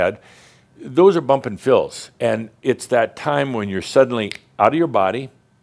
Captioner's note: snap!